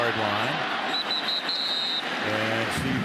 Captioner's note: whistle